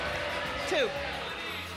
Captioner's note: audience yelling suggestions